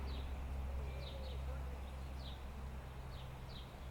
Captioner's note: birds singing